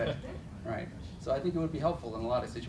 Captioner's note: laughter